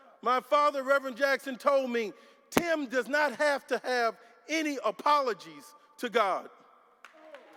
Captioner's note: applause